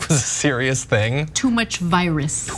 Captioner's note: laugh